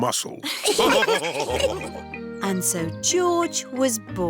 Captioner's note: laughs; all laughing